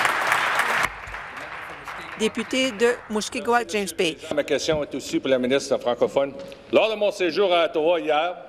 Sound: applause

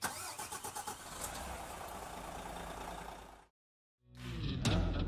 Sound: engine whirring; upbeat music

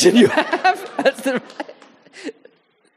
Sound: audience laughing; laughing

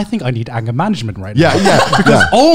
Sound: laughing loudly

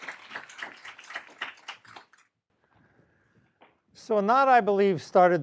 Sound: applause

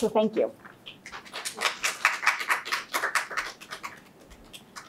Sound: audience clapping

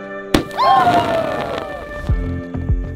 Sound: crackling sound

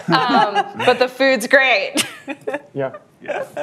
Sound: laughs; laughter

